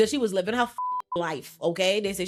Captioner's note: beep